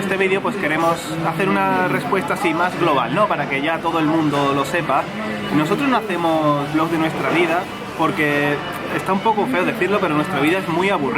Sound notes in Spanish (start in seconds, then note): none